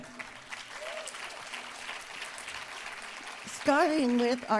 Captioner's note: applause